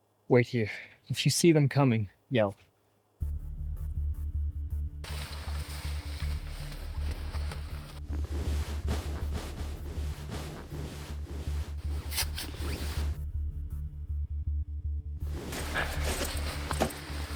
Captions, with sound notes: Wait here. If you see them coming, yell. [Tense music] [Rustling fabric]